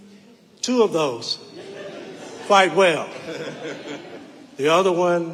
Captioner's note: audience laughing